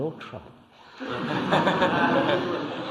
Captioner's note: laughter